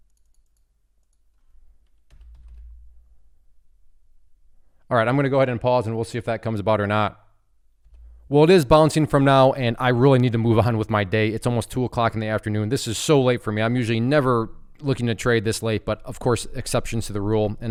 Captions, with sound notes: (mouse clicking) (keyboard clattering) All right, I'm going to go ahead and pause and we'll see if that comes about or not. Well, it is bouncing from now and I really need to move on with my day. It's almost two o'clock in the afternoon. This is so late for me. I'm usually never looking to trade this late, but of course, exceptions to the rule